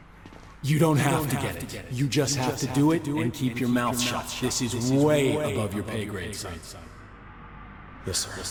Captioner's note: as an echo from the past; as an echo from the past